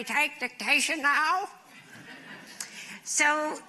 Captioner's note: laughter